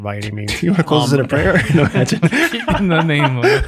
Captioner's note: group laughs